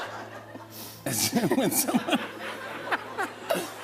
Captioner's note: laughing